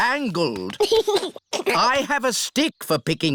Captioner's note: giggles